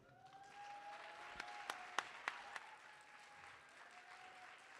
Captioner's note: audience cheering